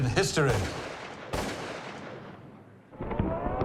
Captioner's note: gun shots